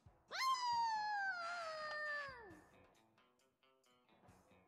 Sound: koyote noises

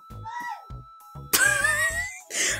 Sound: laughs

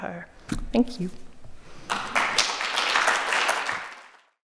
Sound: audience applauding

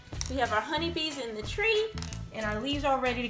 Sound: voiceover

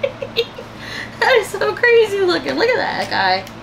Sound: laughter

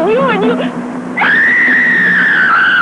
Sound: horses whinnying; shrieking

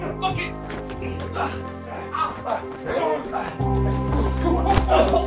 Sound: men grunting; fists pounding

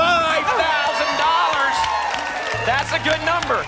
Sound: applause and cheering

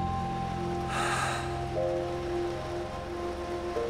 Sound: sighing

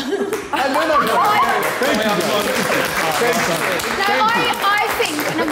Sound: Sidemen applaud

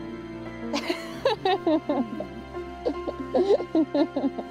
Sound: laughs

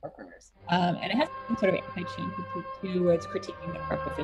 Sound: audio distortion

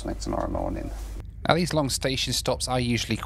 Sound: voiceover

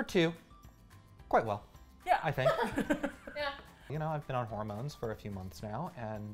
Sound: laugh

